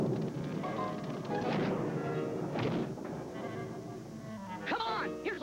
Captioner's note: footsteps; thud; crash